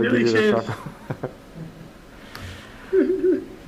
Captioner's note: laughs; senator laughs